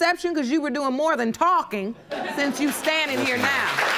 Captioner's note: audience laughing; audience applauding